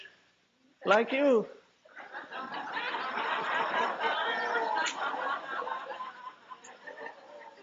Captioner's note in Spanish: risas